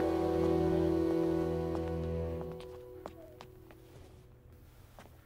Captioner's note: Footsteps